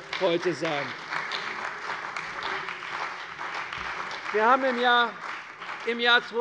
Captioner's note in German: Beifall bei der CDU und dem BÜNDNIS 90/DIE GRÜNEN